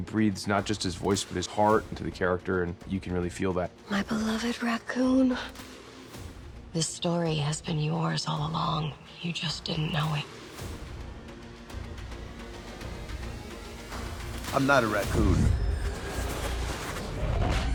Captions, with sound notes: He breathes not just his voice but his heart into the character. And you can really feel that. My beloved raccoon. This story has been yours all along. You just didn’t know it. I’m not a raccoon. [Whooshing]